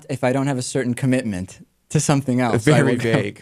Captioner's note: laughs